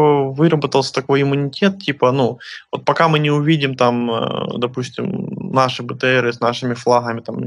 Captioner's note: Ukrainian